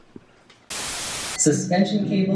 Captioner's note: static